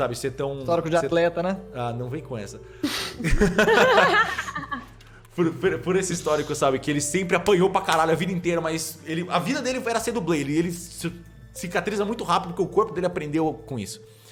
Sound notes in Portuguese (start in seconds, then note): 3.2 risada